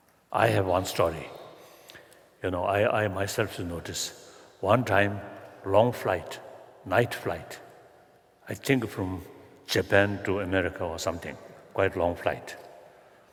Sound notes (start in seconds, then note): none